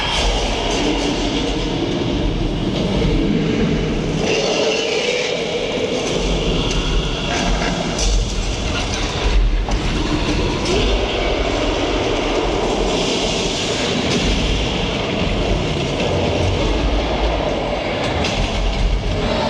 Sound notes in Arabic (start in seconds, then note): 3.0 زمجر الديناصورات; 16.7 زمجر كونغ